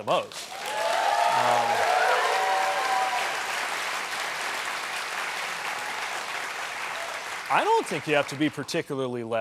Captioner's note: cheers and applause